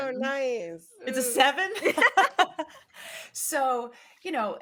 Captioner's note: both laughing